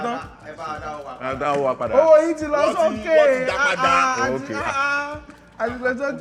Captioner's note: laughs